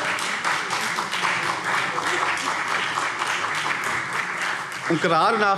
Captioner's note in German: Beifall CDU und vereinzelt BÜNDNIS 90/DIE GRÜNEN